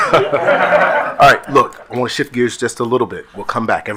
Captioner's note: attendees laughing